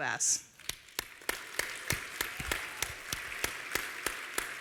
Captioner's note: applause